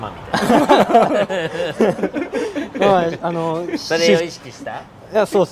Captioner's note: laughter